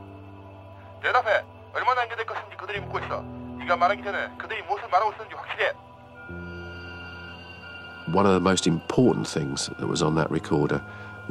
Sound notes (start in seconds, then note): 0.0 gentle dramatic music; 1.2 recorded voice speaking foreign language